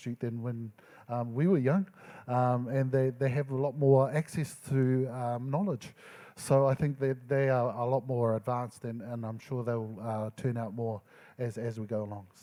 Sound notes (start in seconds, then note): none